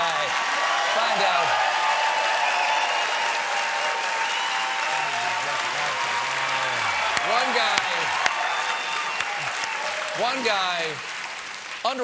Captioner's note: cheers and applause